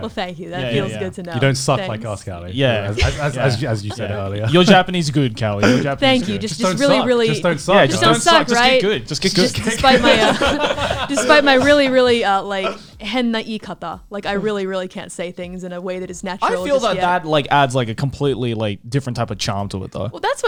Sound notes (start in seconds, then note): 10.0 laughs; 12.8 speaks Japanese